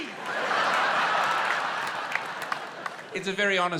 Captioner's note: laughter